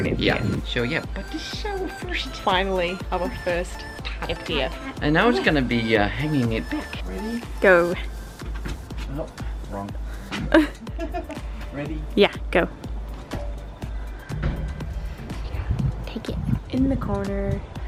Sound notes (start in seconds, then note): 10.3 laughing